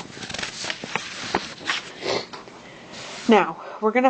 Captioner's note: paper shuffling